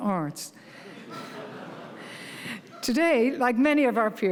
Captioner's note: audience laughing